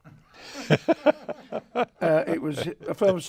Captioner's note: laughs